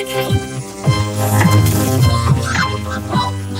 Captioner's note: gasps